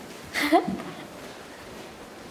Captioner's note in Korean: 웃음